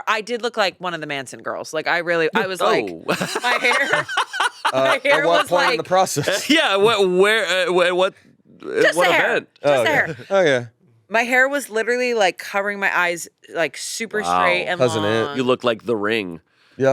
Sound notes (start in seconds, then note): 2.4 laughs; 7.5 stammers